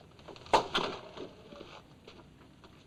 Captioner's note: chair creaks; thump